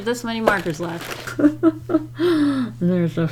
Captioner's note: pained laugh